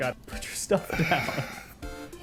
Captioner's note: chuckling